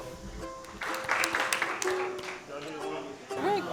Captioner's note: people clapping